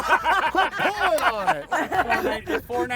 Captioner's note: everybody laughing